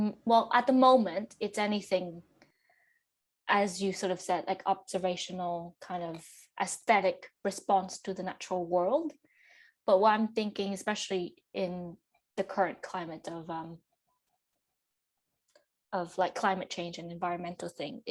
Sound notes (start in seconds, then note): none